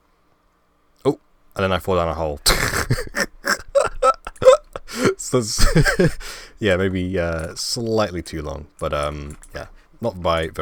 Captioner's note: laugh